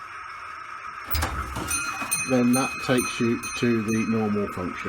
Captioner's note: train bell chiming